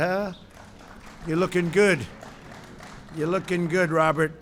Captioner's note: applause